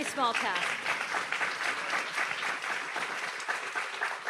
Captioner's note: audience applauds